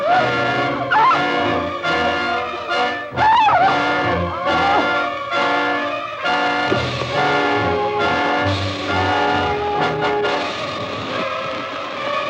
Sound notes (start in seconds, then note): 3.1 screams